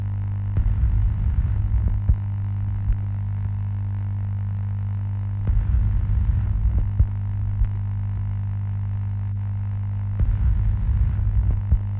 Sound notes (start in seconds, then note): 0.9 sound of radio interference